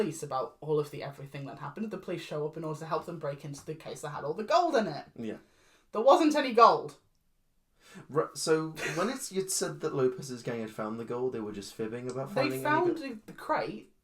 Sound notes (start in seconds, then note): 7.0 confused silence; 8.8 laughing